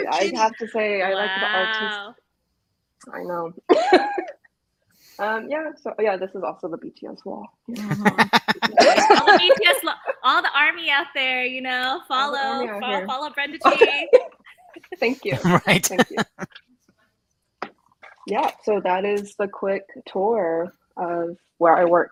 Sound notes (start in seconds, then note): 4.2 laughs; 7.8 laughs; 13.5 laughs